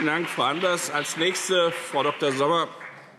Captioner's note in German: Beifall BÜNDNIS 90/DIE GRÜNEN und CDU